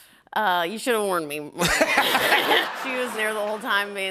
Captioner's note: laughter